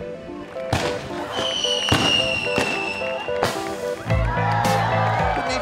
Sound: fireworks deflagrate

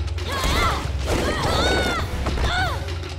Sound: groaning

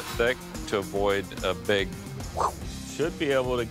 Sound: whoosh

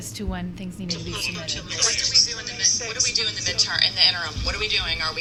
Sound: distorted speaking

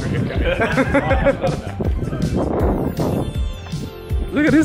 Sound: all laughing

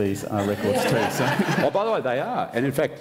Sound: laughter

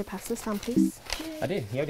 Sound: error sound

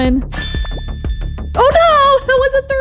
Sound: upbeat music; magical warbling

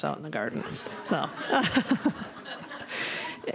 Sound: laughter

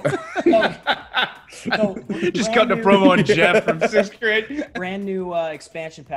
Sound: laugh

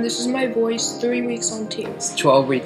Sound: lower voice

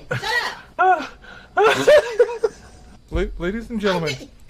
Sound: laughing to death

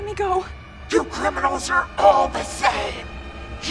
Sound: demonic voice

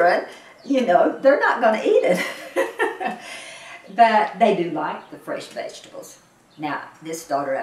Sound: laughs

